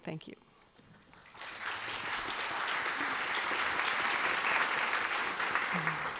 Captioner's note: audience and choir applauding